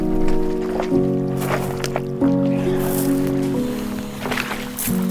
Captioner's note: water burbling